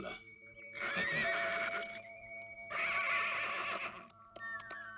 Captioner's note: horse neighing